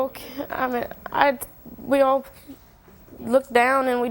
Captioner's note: stuttering